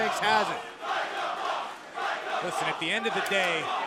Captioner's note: crowd cheering